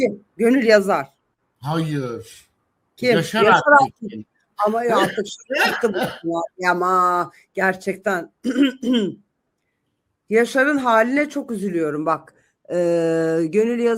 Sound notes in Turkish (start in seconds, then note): 4.9 kahkaha; 8.5 boğazını temizler